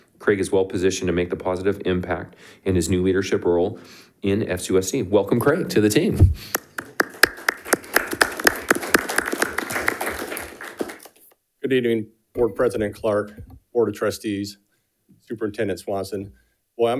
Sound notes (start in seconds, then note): 6.5 attendees applauding